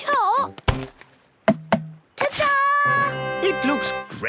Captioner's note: tapping